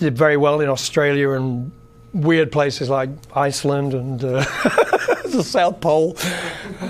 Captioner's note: laughs